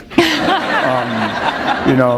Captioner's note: laughter